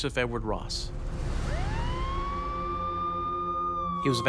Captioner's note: emergency siren